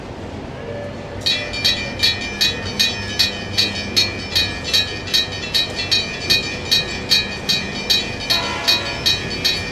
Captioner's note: railroad crossing bell